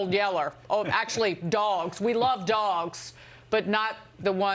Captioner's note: laughter